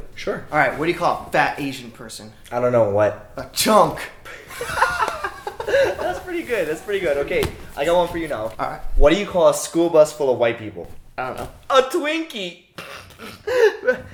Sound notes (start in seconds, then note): 4.3 laughing; 12.8 snickering